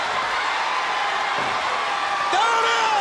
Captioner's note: crowd cheering